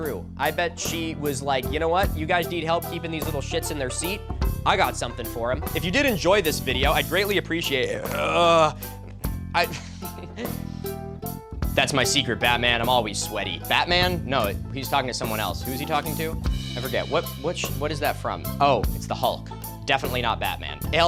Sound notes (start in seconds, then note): 7.8 burps and moans; 9.7 laughs